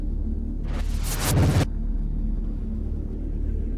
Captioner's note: screen crackles